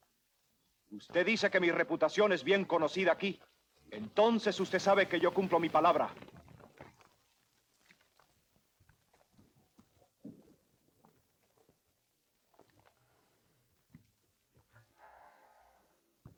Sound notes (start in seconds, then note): 1.0 Ramirez speaks Spanish